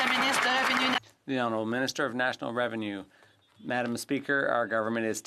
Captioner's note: some Applause